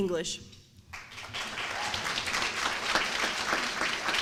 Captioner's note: applause